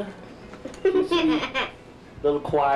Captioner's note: giggles